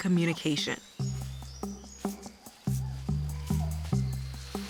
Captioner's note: scratching